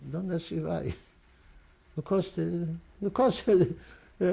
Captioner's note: laughs